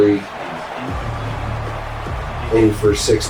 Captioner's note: crowd Noises